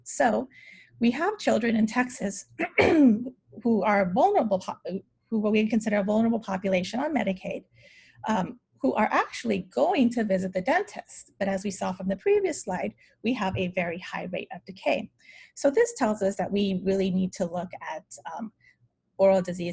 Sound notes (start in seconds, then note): 2.7 clears throat